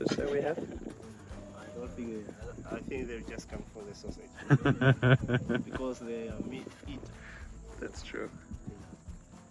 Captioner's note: giggle